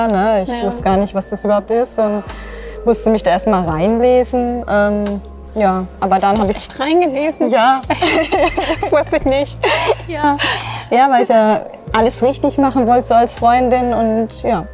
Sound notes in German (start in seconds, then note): 7.9 Lachen